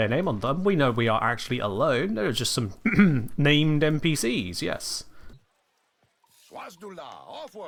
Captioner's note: ahem